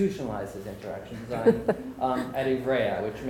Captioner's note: laughing